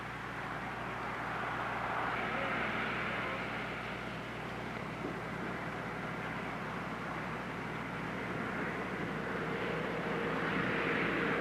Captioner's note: traffic noises